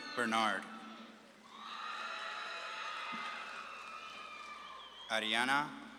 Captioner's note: audience claps and cheers